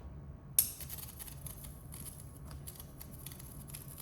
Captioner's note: zapping continues